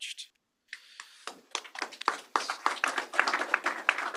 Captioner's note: applause